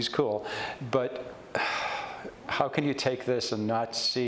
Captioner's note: sighs